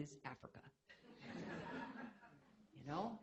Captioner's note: laughter